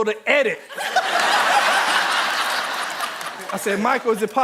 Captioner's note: audience laughing